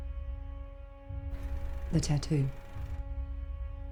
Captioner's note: cinema projector runs